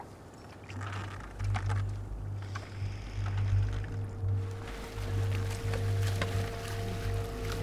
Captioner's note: dramatic music; water splashing